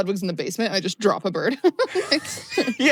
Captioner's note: laughs